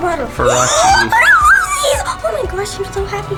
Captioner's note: squeals